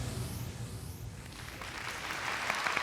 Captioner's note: applause